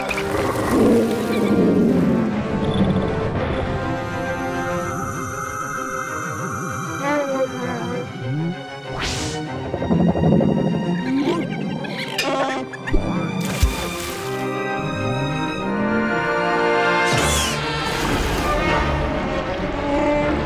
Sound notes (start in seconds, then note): 2.2 humming; 6.7 wookiee call; 11.1 wookiee call; 17.2 screams; 18.1 wookiee call